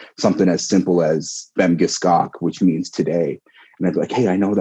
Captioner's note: wolastoqey language